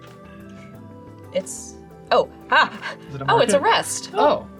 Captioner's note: laughs